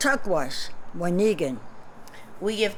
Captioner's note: non-english speech